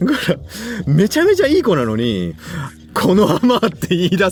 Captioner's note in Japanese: 笑い; 息をのむ音